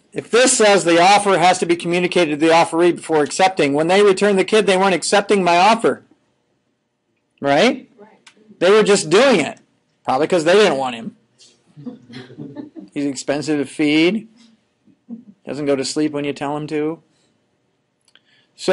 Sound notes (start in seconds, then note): 11.7 students chuckling